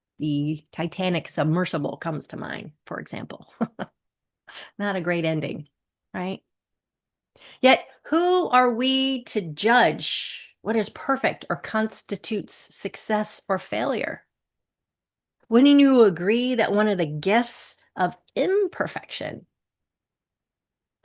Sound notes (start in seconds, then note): 3.4 chuckles